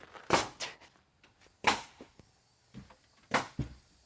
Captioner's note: nail gun shooting